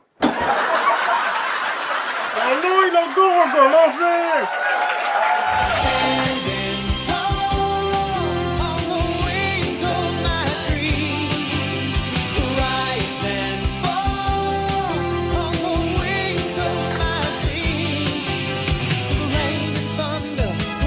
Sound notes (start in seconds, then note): 0.2 recorded laughs; 4.3 recorded laughs, applause